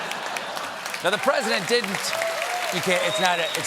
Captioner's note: applause